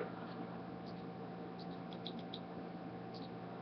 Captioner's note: clicking